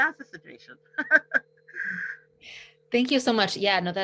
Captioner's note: laughs